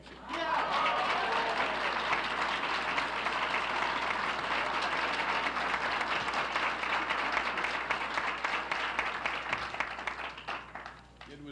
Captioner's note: applauses